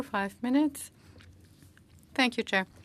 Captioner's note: speaking French